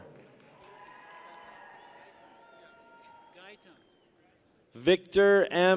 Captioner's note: people cheer